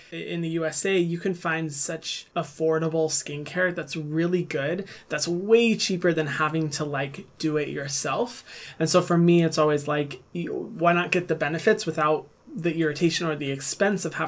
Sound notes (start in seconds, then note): none